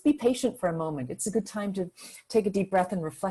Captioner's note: inhales sharply